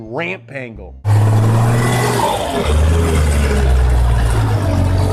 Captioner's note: engine roaring